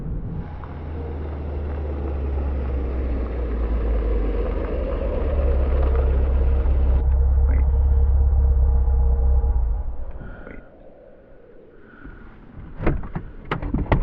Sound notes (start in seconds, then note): 3.8 car slows to a stop; 12.8 door pops open